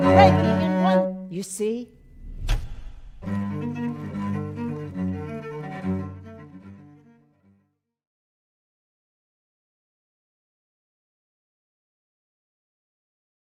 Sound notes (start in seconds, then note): 2.0 darkness thuds; 3.2 frenetic music